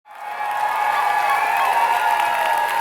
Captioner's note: applause